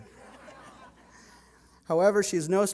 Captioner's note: laughter